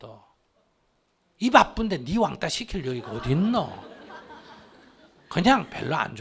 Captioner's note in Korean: 청중 웃음